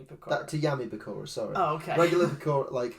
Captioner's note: laughs